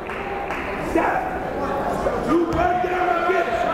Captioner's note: yelling